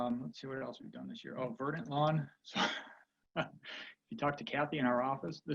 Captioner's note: chuckles